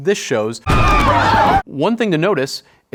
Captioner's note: mourners screaming